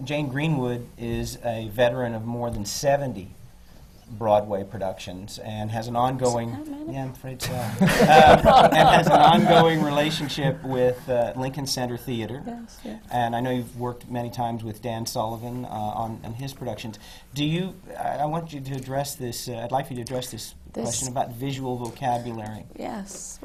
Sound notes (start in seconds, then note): 7.4 laughter